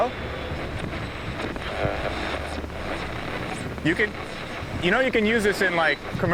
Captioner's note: radio crackling intensifies